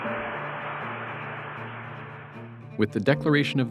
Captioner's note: applause